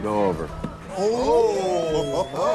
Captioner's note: men hollering